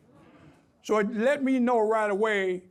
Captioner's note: audience groans